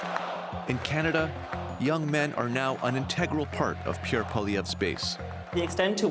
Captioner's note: chanting